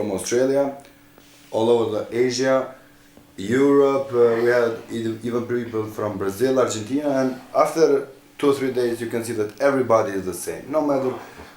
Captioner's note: motor